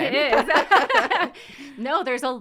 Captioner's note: laughter